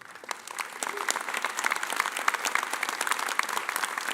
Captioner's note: audience applauding